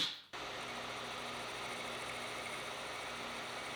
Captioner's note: lathe whirring